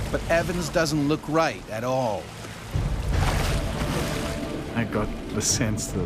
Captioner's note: voiceover